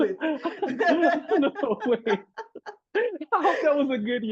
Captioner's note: laughs